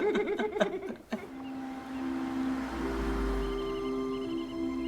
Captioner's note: laughing